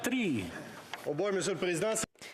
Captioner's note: speaking French